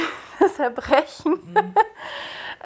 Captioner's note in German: lacht